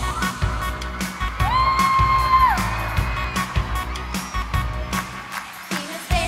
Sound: applause and cheering

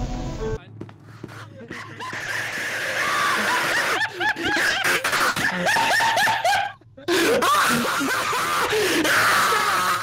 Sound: extreme laughter

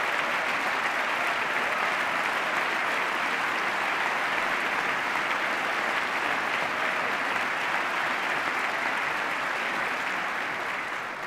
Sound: cheers, applause

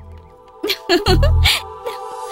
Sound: laughs

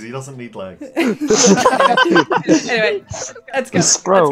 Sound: laughter

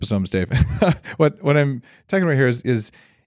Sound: chuckles

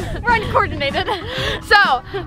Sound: laughing

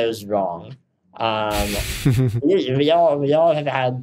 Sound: Justin chuckles

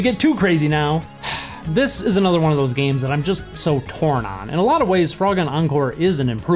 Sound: sigh

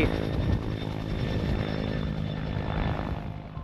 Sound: engine whirring

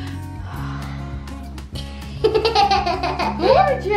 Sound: exhale; giggles

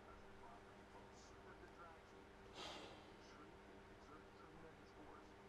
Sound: sound of a room fan and Radio news station

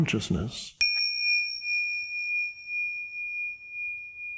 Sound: bell chimes

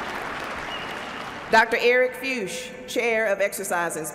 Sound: applause

